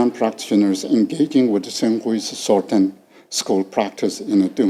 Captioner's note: speaking foreign language